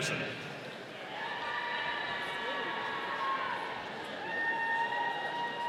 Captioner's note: audience cheering